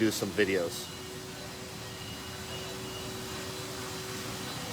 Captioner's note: machine buzzing